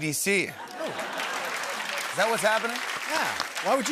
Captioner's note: laughter